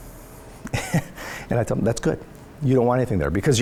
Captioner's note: laughs